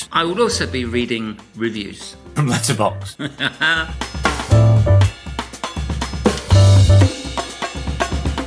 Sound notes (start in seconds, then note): 3.0 Kirk laughing; 4.6 instrumental upbeat music